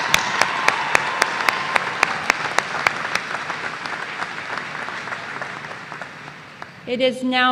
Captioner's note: cheers and applause